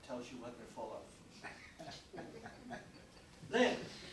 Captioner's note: chuckling